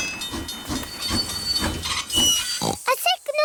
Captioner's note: tinging; oinks